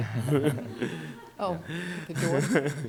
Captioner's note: audience laughs